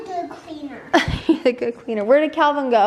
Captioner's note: laughs